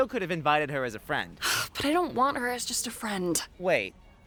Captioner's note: sighs